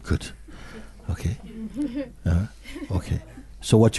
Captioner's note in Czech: smích